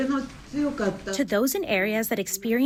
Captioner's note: through translator